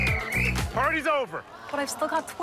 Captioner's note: whistles